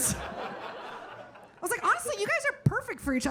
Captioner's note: audience laughing